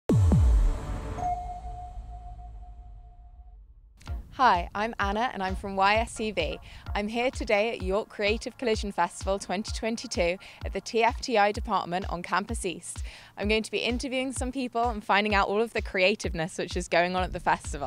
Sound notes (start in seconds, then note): 0.1 drum beats; 1.1 radar ping